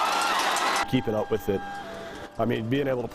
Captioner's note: crowd cheering